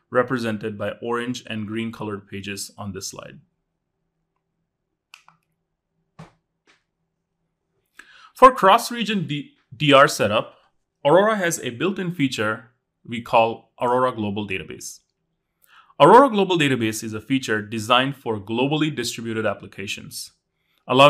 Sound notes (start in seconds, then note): 5.1 remote clicking; 5.3 accessory clattering